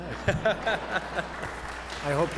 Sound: laughter and applause

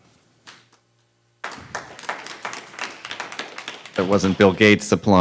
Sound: applause

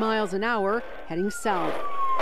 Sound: cars squealing

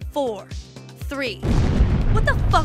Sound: explodes

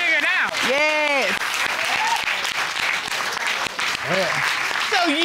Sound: applause

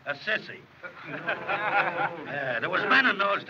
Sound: laughter

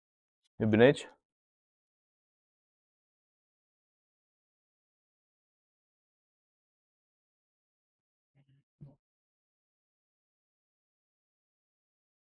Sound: speaking in Romanian

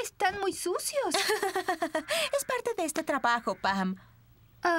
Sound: laughing

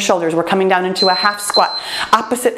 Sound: timer beeps

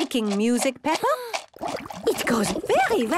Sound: shaker shaking, water bubbling

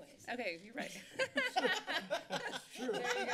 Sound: laughter

